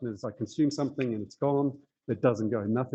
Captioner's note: fingers snapping